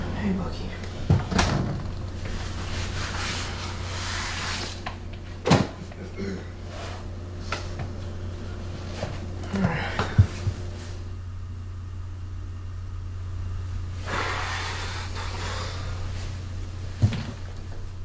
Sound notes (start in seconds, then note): 3.8 door slams; 5.4 bag thuds